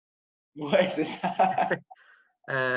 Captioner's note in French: rires